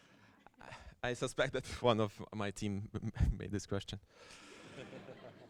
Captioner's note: laughter